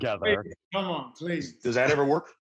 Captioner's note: laughs